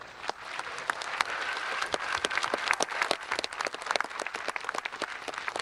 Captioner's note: audience applauding